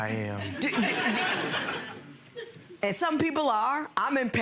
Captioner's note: crowd laughs